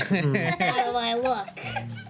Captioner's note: laughing